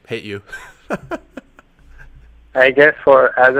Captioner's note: laughs